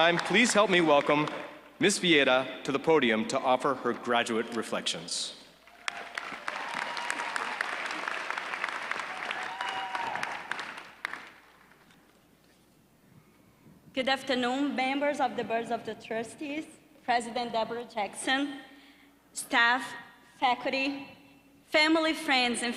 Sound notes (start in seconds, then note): 0.0 applause; 9.4 applause